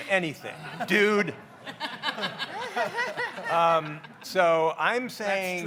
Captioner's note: audience laughs